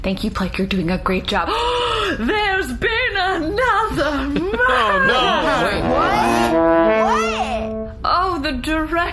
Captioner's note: dramatic gasp; honks horn